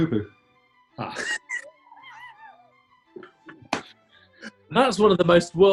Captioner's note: laughing